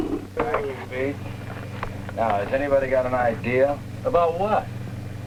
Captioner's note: roaring